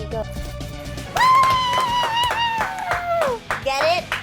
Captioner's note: clapping